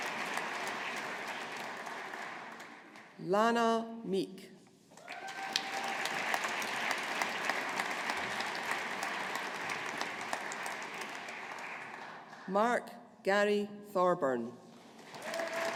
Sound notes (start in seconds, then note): 5.0 audience applauding; 14.9 audience applauding